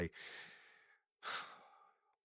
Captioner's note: sigh